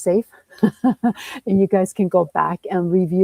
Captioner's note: chuckles